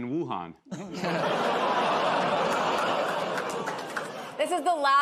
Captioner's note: audience groans